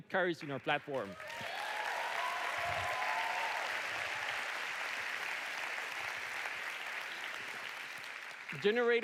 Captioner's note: audience cheering